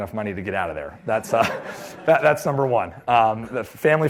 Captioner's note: laughter